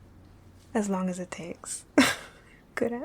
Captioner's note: laughing